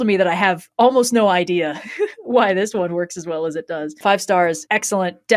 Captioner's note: laughs